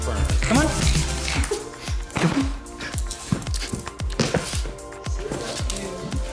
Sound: shaking sound

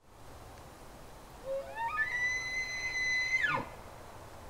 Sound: elk bugles

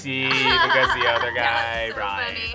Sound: laughs

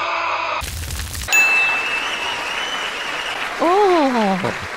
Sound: cheering

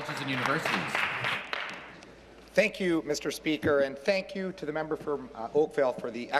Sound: applause

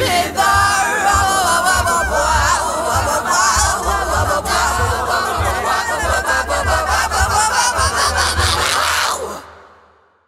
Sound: wailing vocalizations

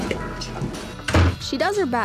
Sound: door closing

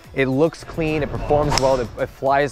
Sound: whooshing sound

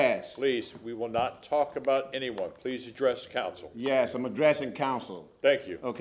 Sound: sounding gavel

